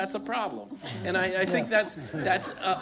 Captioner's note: laughter